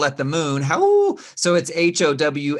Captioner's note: gasps